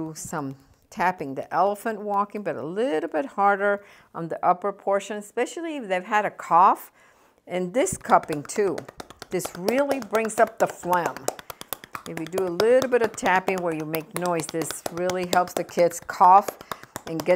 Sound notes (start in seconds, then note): 9.1 slapping